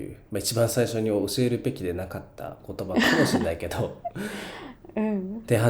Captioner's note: laughs